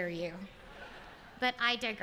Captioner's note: laughter